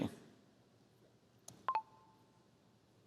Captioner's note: computer chirps